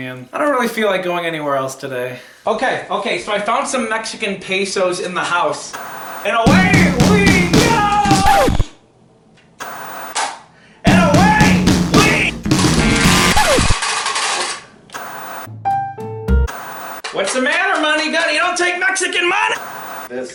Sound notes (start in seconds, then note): 6.4 record scratching; 9.6 static buzzing; 10.8 upbeat music; 12.6 buzzer sounding; 12.6 static buzzing; 15.5 tranquil music